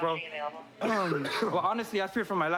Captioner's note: coughs